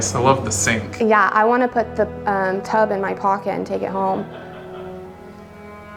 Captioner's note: laughs